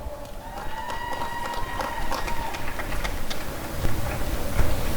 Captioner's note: applause and cheering